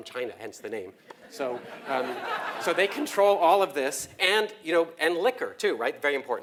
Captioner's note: laugh